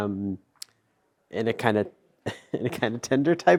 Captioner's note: chuckles